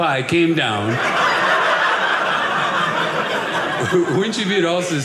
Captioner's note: audience laughing